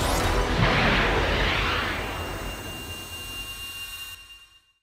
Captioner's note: missile launching